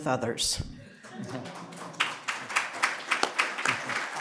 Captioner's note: applause